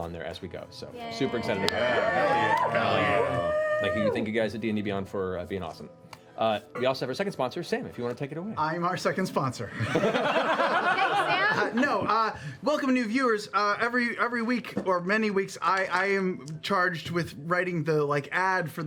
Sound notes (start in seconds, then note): 9.7 laughter